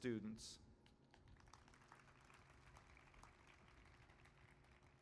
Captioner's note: applause